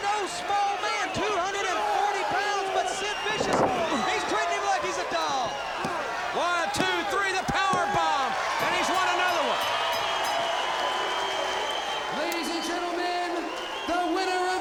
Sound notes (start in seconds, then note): 2.7 crowd cheering; 5.9 crowd cheering; 8.5 bell ringing